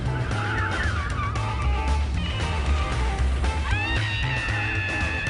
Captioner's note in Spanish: Chirrido de neumáticos